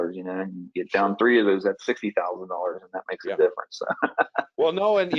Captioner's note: chuckles